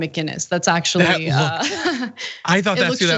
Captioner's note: laugh